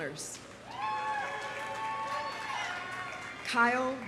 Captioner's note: audience applauding; audience cheering